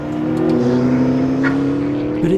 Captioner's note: engine roaring